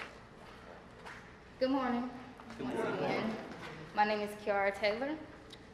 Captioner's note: crowd